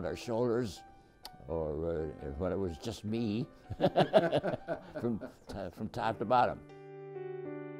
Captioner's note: laughs